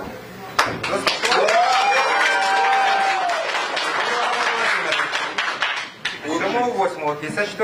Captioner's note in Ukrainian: прихильники Медведчука аплодують і свистять